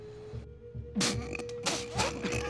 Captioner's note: coughs